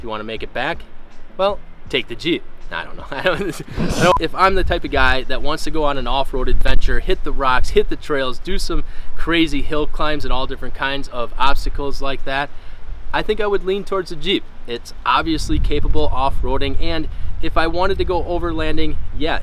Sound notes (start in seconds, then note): 3.0 laughs